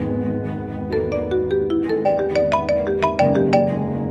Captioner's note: phone Ringing